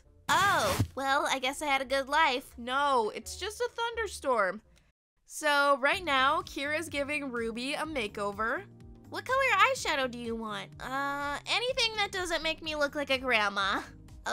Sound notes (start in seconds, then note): none